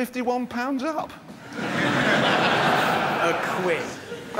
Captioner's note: audience laughs